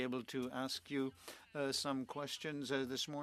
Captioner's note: speaking French